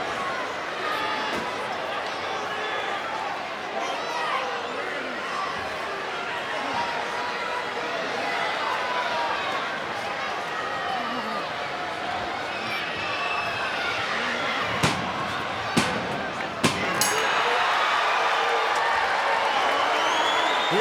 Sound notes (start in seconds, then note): 14.3 referee smacking; 16.6 bell dings; 16.9 crowd cheering